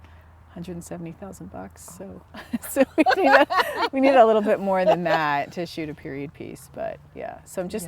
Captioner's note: laughter